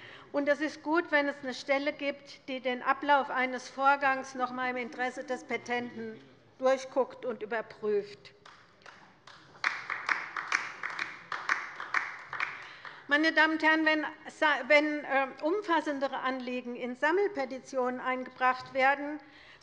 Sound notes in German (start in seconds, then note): 8.4 Beifall bei der LINKEN